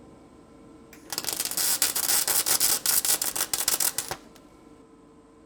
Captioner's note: electricity popping